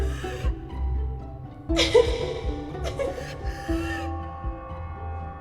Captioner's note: laughs